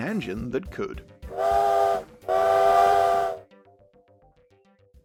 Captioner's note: train whistle